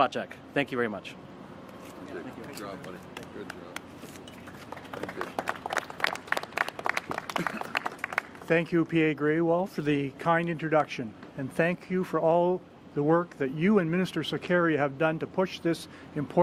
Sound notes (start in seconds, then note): 8.0 applause